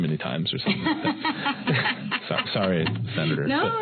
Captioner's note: laughter